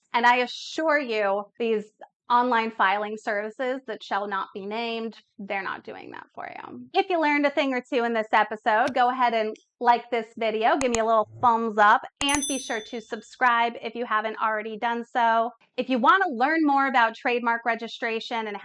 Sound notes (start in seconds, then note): 10.8 button clicking; 12.2 bell ringing